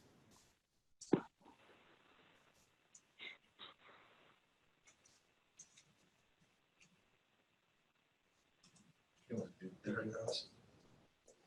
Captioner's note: silence - no speaking